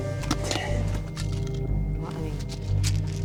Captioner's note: pills rattling